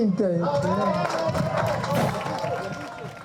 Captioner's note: audience applauding; drums beating